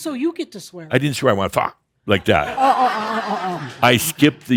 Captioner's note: more laughter